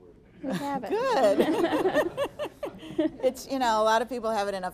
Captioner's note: all laughing